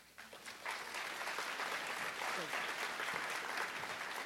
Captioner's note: applause